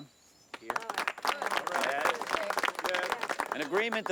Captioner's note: crowd clapping